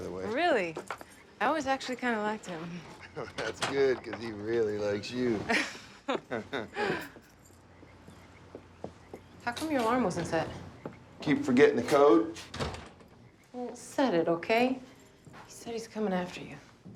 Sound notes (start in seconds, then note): 5.4 both chuckle